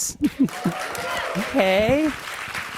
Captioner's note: audience applauds and cheers